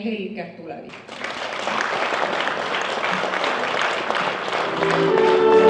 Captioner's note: applause